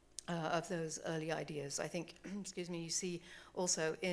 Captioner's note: clears throat